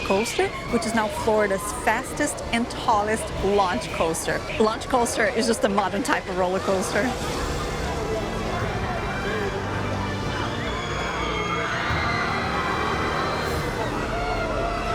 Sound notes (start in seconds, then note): 10.2 screaming